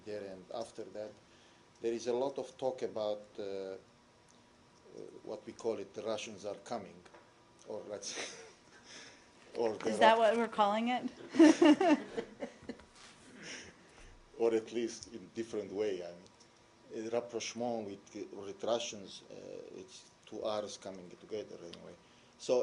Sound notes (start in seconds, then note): 11.2 laughter